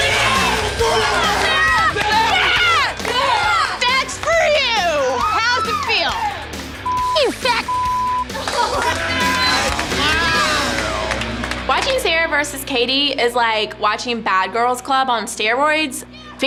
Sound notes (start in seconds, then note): 0.1 crowd cheering; 6.8 beep